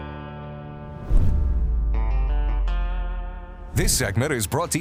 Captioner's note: logo swooshes